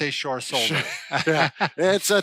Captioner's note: both laughing